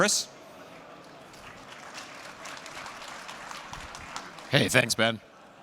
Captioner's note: applause